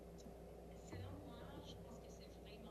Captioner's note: speaking French